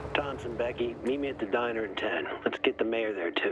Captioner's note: tense music; radio